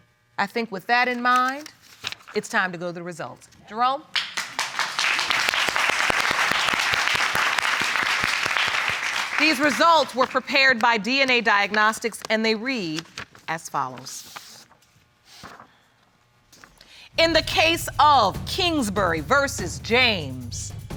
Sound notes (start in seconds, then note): 5.7 audience applauding